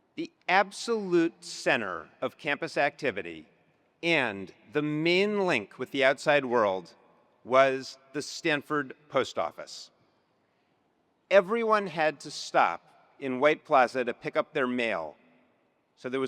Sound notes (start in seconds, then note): none